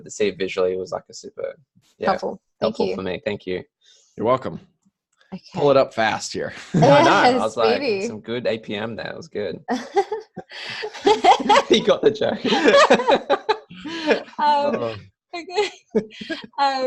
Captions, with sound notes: But to see it visually was actually super-- - Helpful. Thank you. - Helpful for me. Thank you. - You're welcome. - Okay. - Pulled it up fast here. - Yes, speedy. - I know, I was like, "some good APM there", that was good. (laughter) He got the joke. (more laughter)